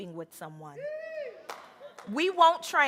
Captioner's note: audience cheering